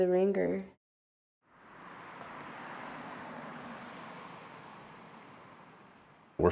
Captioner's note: traffic noises